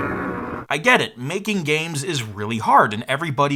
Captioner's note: loud grumbling